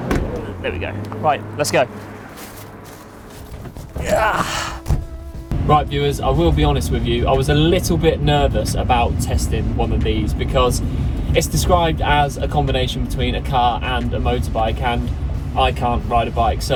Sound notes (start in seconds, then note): 3.9 grunts; 4.7 car door shuts